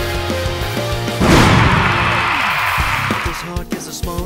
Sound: crowd cheering

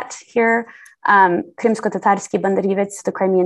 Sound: non-english speech

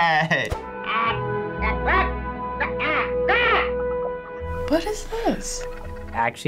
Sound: alien speaking foreign language

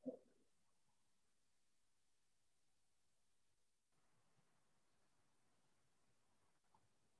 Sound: silence

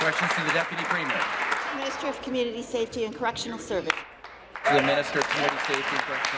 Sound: applause

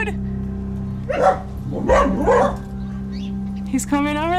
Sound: barks

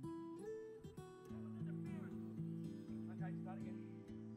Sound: indistinct chattering in the background

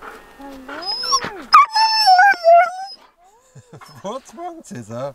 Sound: Caesar is howling

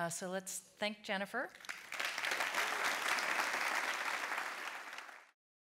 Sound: audience applauding

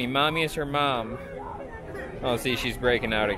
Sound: starts crying

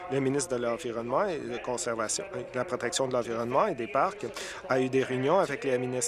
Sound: applause

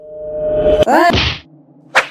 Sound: smack

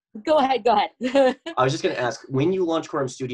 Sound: laughs

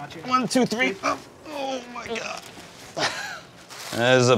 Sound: grunting

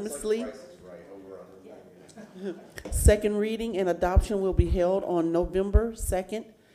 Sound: laughter

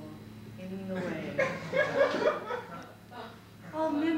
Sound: laughter

